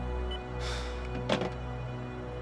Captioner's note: sighs